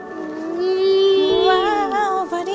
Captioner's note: vocalizing